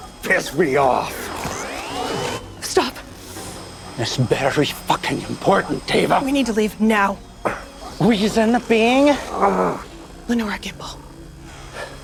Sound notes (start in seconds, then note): 1.0 nail gun buzzes; 9.2 Nash groans